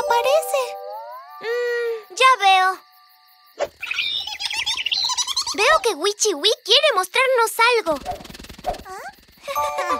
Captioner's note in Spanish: Sonido de pájaro; Risas